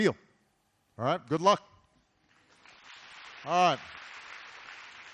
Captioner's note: applause